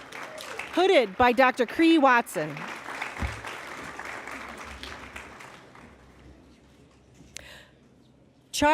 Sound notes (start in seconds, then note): 3.4 applause